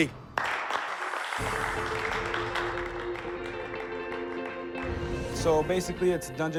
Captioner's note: applause